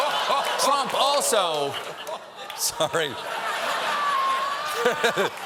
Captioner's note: audience reacts; laughter